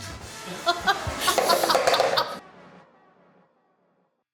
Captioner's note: laughter